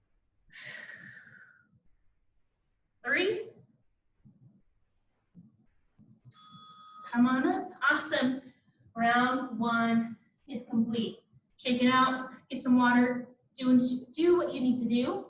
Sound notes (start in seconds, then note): 2.9 ding